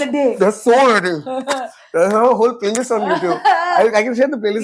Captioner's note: laughs